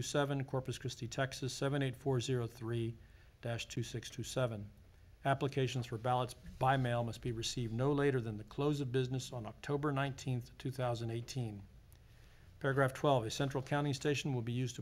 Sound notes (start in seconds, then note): none